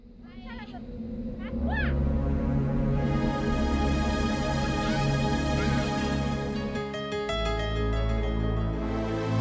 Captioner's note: crickets chirpping; suspenseful music